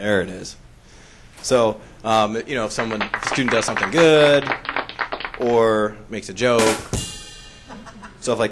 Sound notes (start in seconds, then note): 2.6 applauds; 6.9 drum kick